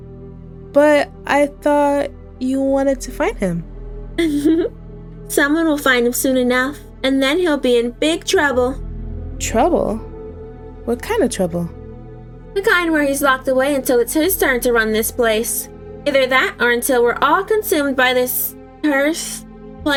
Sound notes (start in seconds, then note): 4.2 laughs